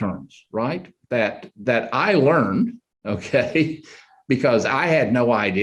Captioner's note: chuckles